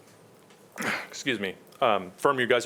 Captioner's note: clears throat